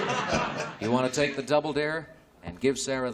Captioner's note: chuckling